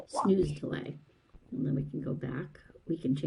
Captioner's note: voiceover